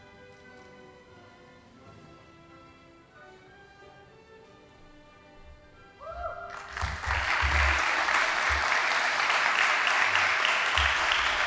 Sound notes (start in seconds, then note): 6.4 audience applauding